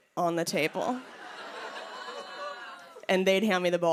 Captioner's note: laughter